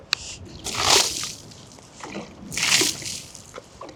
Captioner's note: wood clanging; water splashing